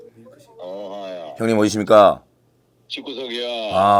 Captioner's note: haha